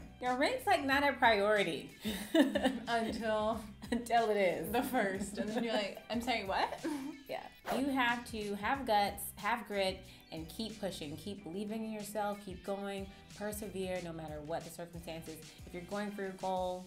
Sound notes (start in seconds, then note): 2.0 laughs